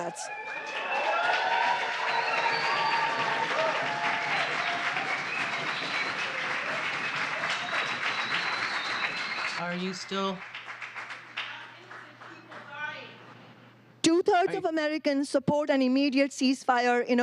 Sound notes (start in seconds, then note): 6.7 applause; 6.7 cheering